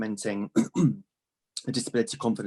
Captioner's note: clears throat